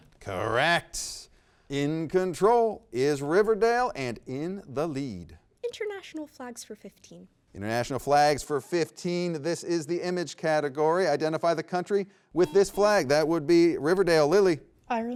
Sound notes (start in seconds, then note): 12.4 buzzer beeps